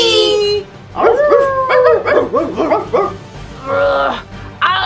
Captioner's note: barking